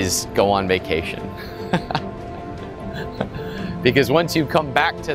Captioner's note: laughs